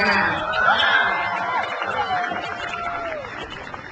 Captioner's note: crowd cheers